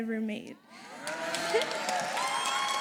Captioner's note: applause